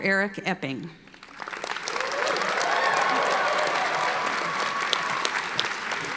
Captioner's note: audience applauding